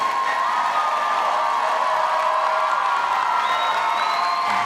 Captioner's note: audience cheering